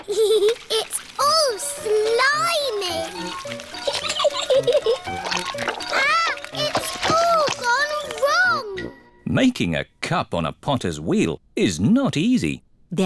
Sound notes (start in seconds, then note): 0.2 giggles